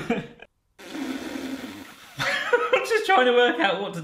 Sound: buzzes and laughs loudly

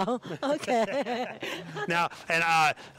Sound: laughing

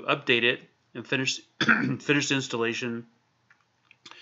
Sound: clears throat

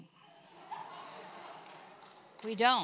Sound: congregation laughs

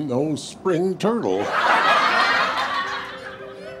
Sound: studio audience laughter

